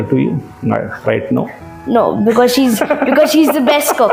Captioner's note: laughs